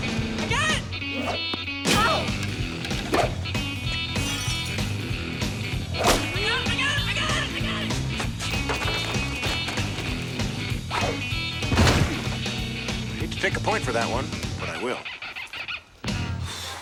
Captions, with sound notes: I GOT IT! OH! [GLASS BREAKS] I GOT IT! I GOT IT! [THUD] HATE TO TAKE A POINT FOR THAT ONE, BUT I WILL.